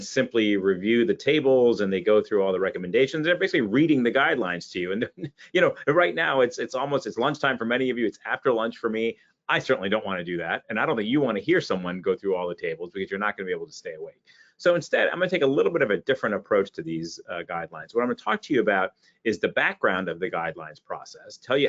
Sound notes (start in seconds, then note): 4.9 chuckles